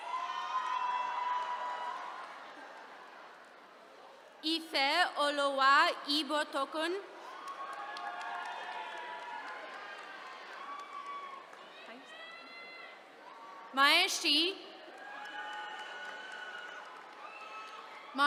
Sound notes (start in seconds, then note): 0.0 attendees cheering; 7.2 attendees cheering; 14.8 attendees cheering